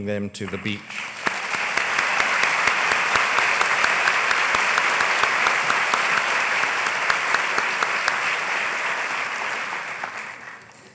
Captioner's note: applause